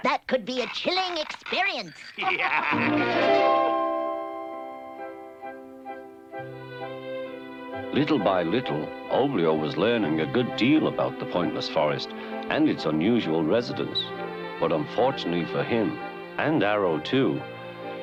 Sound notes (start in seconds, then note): 2.2 laughing